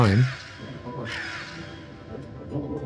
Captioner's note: sighs